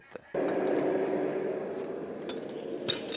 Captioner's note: blast from the furnace